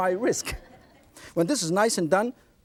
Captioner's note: audience laughs